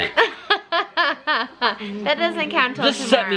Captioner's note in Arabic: يضحك